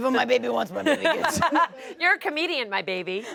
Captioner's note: everyone laughs